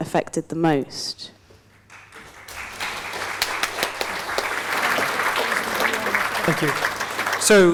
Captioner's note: applause